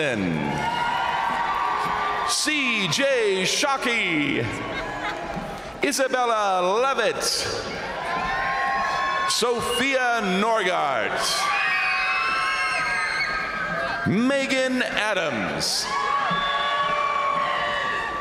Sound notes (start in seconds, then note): 0.1 crowd cheering; 0.1 crowd applauding; 4.4 crowd cheering; 7.5 crowd cheering; 7.5 crowd applauding; 10.9 crowd cheering; 15.2 crowd cheering; 15.8 crowd applauding